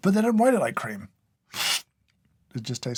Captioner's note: slurp